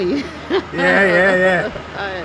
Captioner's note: laughs